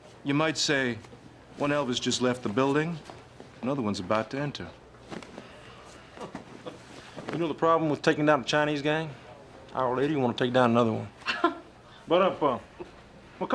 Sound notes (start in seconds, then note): 7.4 Impersonating Elvis; 11.6 laughing